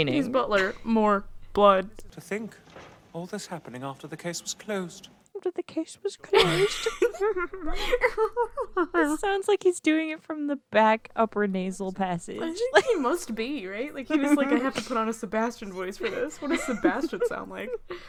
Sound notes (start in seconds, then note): 6.2 laughing; 6.3 both snooty laughing